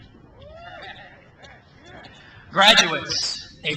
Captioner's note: crowd cheers